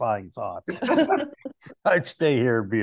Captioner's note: all laughing